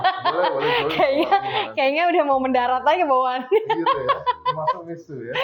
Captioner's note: laughs